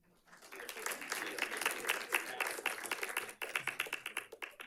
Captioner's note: audience clapping